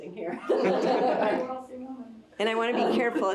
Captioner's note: all laughing